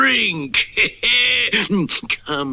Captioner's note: Simon Bar Sinister Laughs